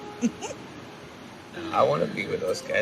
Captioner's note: Katherine laughs